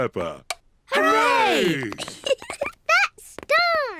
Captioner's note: giggles